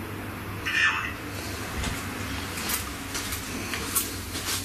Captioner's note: robotic voice